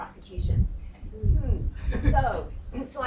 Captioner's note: laughing